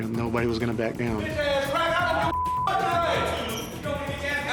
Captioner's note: indistinct chatter